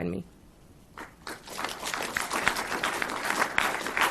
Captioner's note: applause